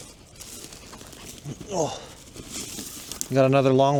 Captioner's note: grunts